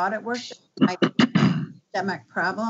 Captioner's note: clears throat